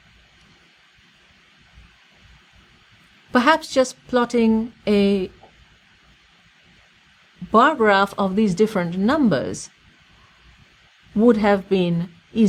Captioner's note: pause